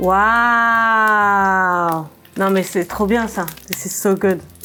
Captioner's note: foreign language